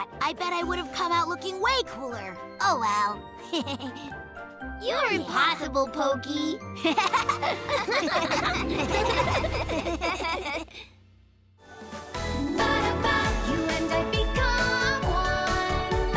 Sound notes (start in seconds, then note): 3.4 chuckles; 6.8 all laughing; 6.8 chuckles